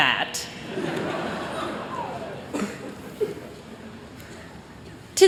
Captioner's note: chuckling